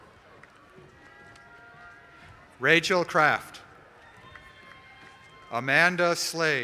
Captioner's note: applause